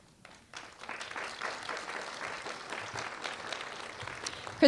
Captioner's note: applause